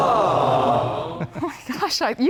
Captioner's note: cheering sound effect